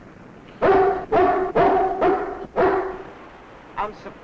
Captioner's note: dog barking